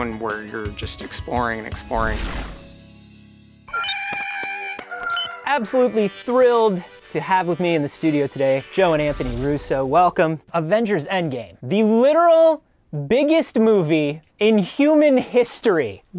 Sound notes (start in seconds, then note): 2.0 whoosh; 3.7 screech